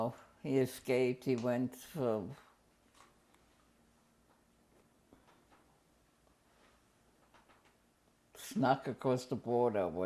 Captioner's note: pauses for 6 seconds